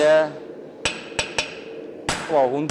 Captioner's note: metallic hammering